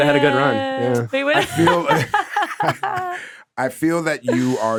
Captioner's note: laughing